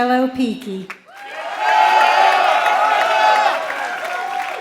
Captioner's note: applause